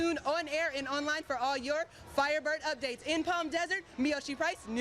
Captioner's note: cheering behind me